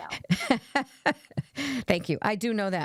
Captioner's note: laughs